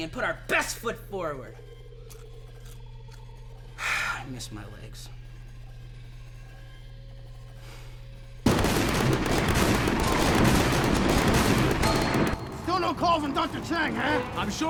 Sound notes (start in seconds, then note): 3.9 sighs; 8.4 guns firing